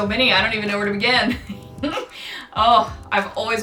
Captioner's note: laughs